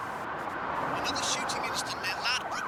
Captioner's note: sirens wailing